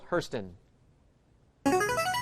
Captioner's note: chiming